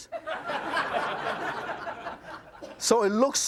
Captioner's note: audience laughs